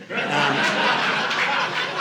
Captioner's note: audience laughing